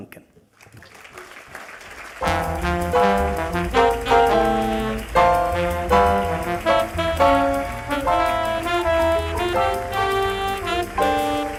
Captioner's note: applause and Music